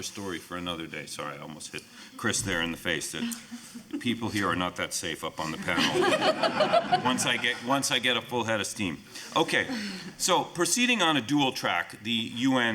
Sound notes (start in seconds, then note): 5.6 laughing